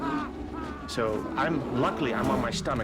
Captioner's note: screaming